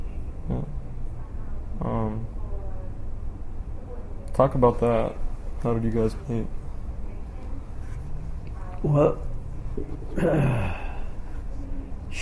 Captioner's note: clears throat